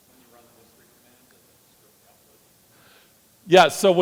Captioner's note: audience member speaking off-mic